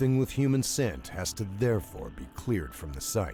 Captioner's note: voiceover